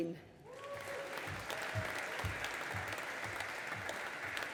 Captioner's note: audience applauding